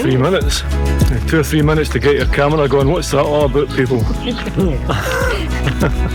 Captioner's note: laughter